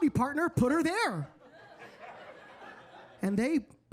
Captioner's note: audience laughing